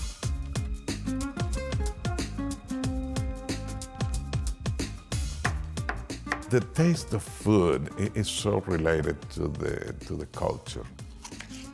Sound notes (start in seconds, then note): 6.2 knife chopping; 11.1 tomatoes slicing